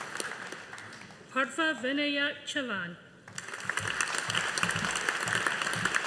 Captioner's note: audience applauding